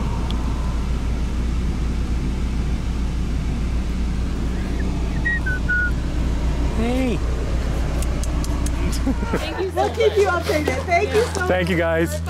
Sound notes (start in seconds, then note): 5.1 whistle; 8.0 tongue clicks; 8.8 laughter